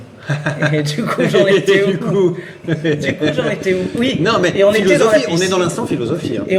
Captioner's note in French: rires